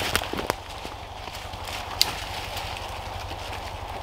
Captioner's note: rustling